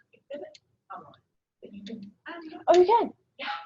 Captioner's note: speaking away from mike